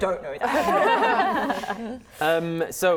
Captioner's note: laughing